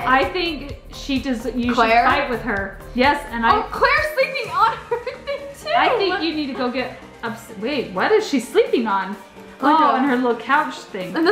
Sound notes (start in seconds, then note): 4.2 laughs